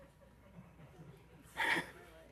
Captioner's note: laughter